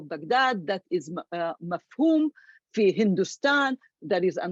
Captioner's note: speaks foreign language